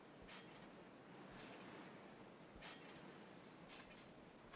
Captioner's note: trampoline creaking